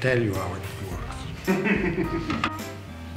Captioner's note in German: Gelächter